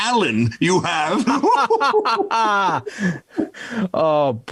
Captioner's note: both laughing